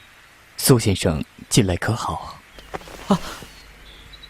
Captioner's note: cough